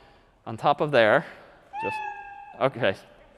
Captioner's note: meow